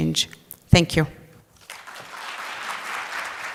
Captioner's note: applause